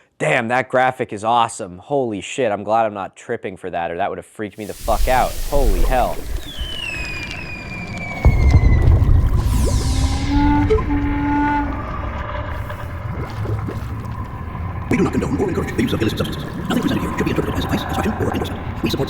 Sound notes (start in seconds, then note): 5.1 fizzling sound; 6.1 bubbling sound; 7.2 fireworks going off; 14.9 rapid robotic voice; 18.8 voice is speeding up and getting higher pitched